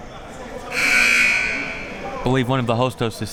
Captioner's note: buzzer buzzing